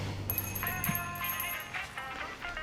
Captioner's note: doorbell jingles, drucinda sighs; cell phone rings; running footsteps